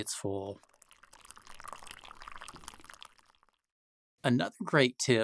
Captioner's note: coffee pouring